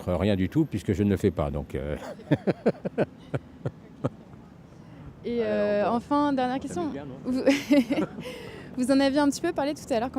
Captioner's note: laughs